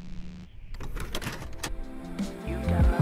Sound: electricity buzzes; tape ejecting

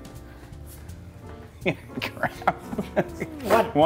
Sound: laugh

